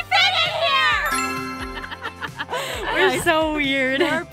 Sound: laughs

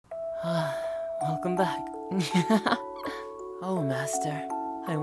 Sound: laugh

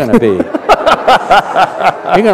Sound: laughter

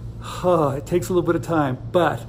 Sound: sighs

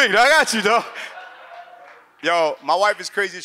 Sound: audience laughs

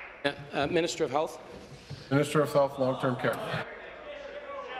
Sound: applause

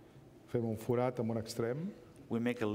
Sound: speaking catalan

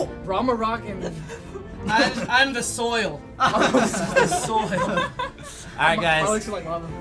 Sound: laughing

